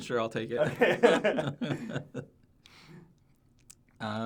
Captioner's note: laughs